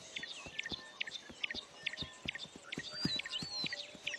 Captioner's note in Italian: cinguettii